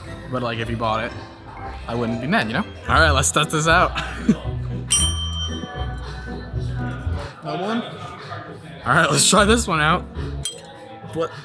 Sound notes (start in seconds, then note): 4.9 bell dings